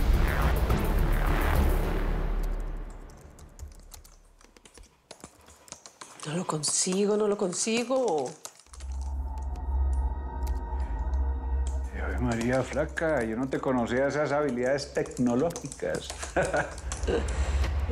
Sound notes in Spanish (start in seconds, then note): 4.2 Tecleo; 12.6 Tecleo; 15.8 Ríe